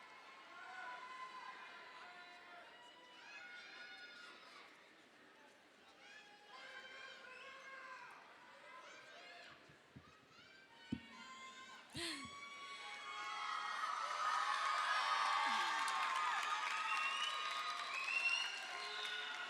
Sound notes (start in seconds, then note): 13.5 audience cheers